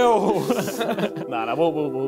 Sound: giggling; both mumbling

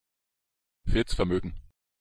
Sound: fast Pronunciation

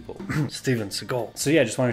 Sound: coughs

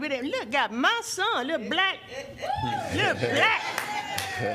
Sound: laughter; applause

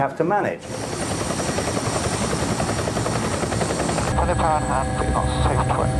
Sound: blades chopping

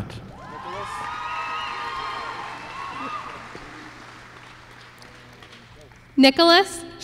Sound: applause

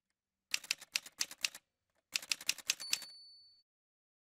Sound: typewriter sounds

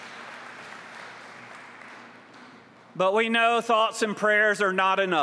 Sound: applause

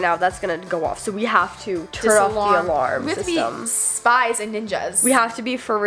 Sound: none

